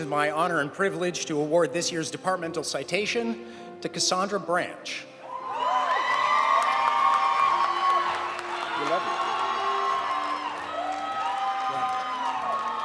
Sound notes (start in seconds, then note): 5.3 audience cheering; 5.3 audience applauding